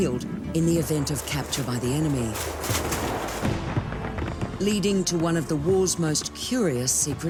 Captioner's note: tense music; gunshots echoing